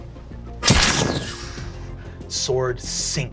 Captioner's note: sword stabbing